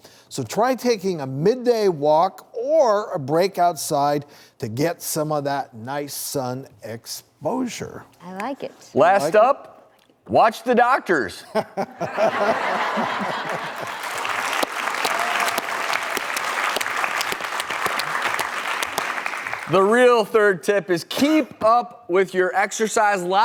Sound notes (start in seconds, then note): 11.5 all laughing; 14.2 audience applauds